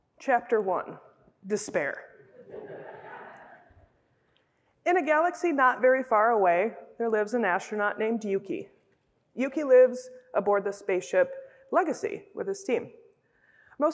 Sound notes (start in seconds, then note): 2.4 laughter